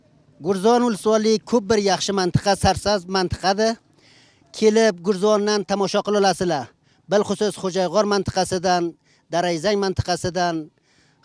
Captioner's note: Uzbeki words